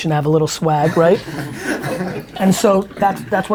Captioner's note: group laughter